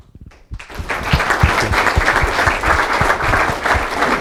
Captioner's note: applause